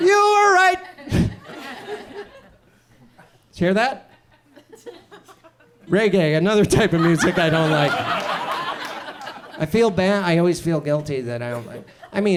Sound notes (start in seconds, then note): 1.0 audience chuckles; 6.8 audience laughs